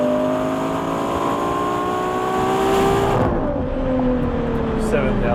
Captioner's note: acceleration